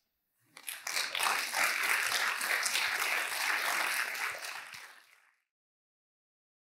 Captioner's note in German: Applaus